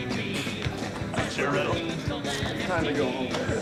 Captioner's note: laughs